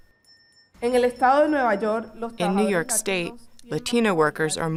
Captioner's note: speaking in Spanish